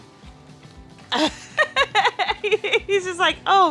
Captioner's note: laughs